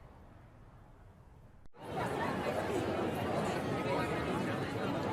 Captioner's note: crowd chattering